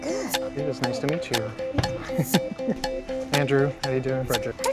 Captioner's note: laugh